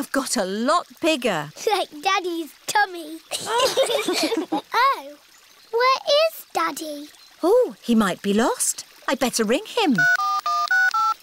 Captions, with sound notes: -The fish have got a lot bigger. -Like Daddy's tummy! (ALL LAUGH) Oh. Where is Daddy? Oh, he might be lost. I'd better ring him.